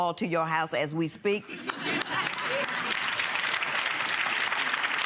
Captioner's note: laughing and clapping